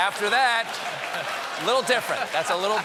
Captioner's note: applause; laughter